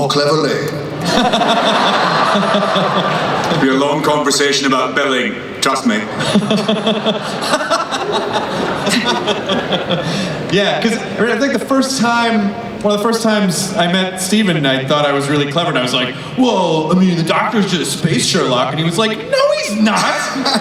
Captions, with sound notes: - More cleverly. (laughing) - It'd be a long conversation about billing, trust me. (laughing) - Yeah, 'cause I think the first, one of the first times I met Steven, I thought I was really clever and I was like well I mean The Doctor's just space Sherlock and he was like no he's not!